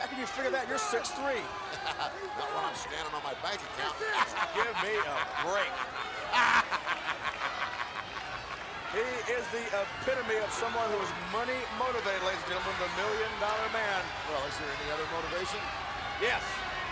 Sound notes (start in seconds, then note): 3.8 laughs; 6.8 Ted continues laughing